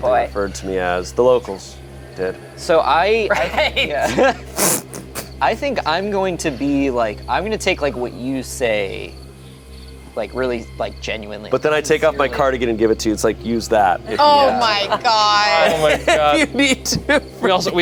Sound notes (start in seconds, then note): 3.1 group laughs